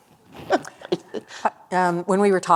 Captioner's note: laughter